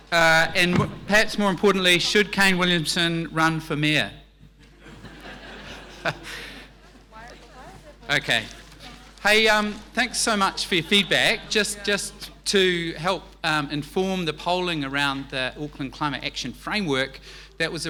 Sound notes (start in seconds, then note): 4.6 laughing